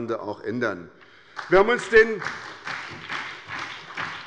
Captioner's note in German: Beifall bei der SPD